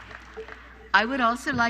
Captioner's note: applause